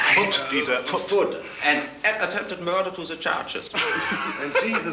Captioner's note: laughs